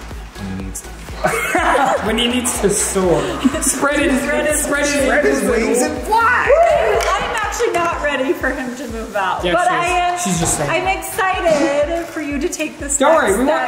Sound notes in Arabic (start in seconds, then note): 1.1 يضحك